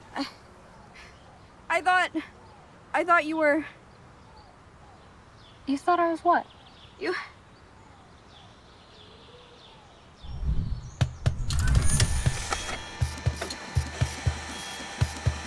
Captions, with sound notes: - I thought, I thought you were... - You thought I was what? - You... (exciting music starts) (printing sounds)